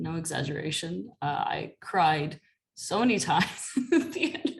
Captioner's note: laughter